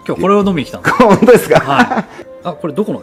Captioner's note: laughs